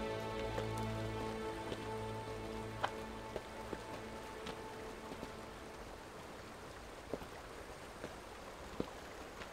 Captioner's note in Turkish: Ayak sesi